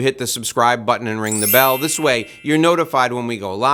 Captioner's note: bell tinkling